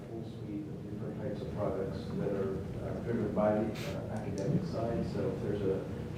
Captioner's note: speaking off mic